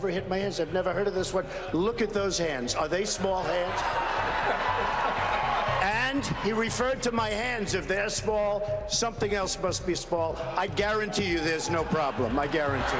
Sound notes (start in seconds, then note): 7.8 audience laughing